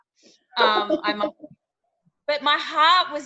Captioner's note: laughing